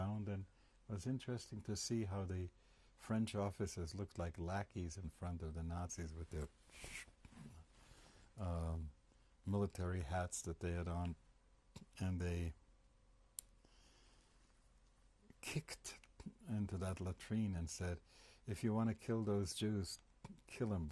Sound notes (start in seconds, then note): 12.8 pauses for 3 seconds